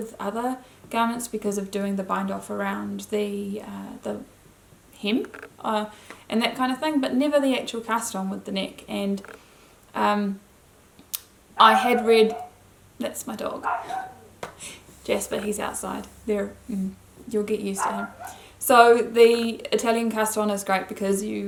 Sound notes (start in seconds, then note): 11.0 dog barking